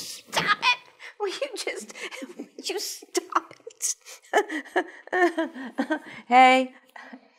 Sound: laughing; laughing

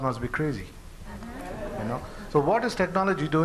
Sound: laughter

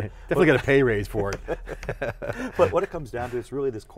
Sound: laughter

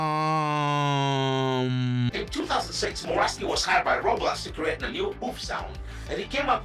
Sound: ChatGPT voice

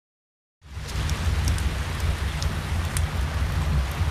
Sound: fire crackling

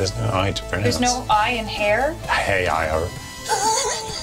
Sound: laughs

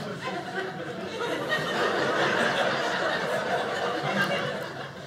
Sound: audience laughing

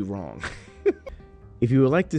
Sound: chuckling

